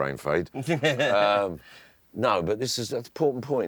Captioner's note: laughing